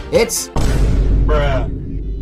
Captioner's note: thud